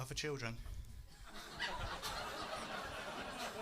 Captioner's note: laughs